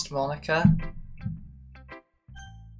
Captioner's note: maintenance worker hitting hammer once again